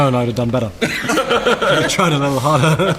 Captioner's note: laughter